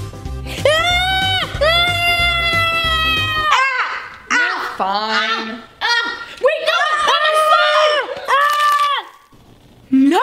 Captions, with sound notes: (screaming) - You're fine. - Wait, no! My slime! (screaming)